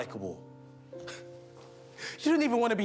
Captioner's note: Alfred laughing